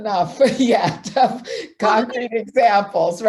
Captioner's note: laughs